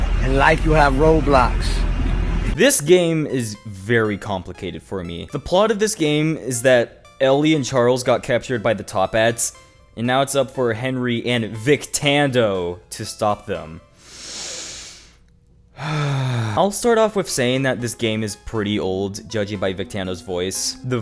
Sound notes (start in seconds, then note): 15.8 sigh